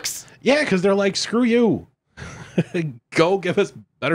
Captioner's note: laughs